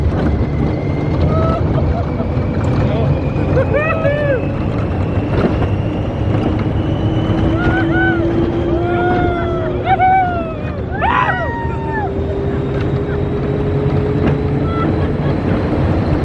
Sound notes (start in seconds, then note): 7.0 passengers screaming